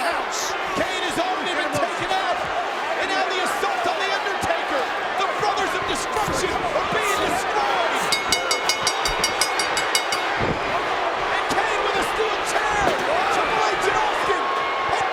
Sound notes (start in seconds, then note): 8.0 bell dinging; 10.4 presenter speaking faintly off mic